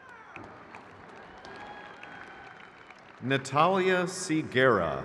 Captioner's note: crowd cheers